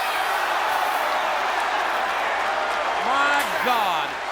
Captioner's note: crowd cheers